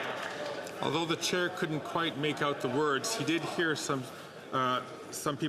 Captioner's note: some Applause